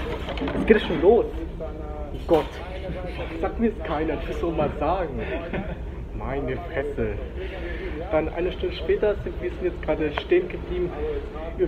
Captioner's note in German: Er lacht